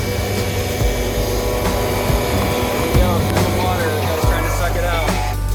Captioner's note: loud truck sounds